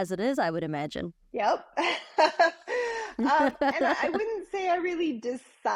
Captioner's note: laughing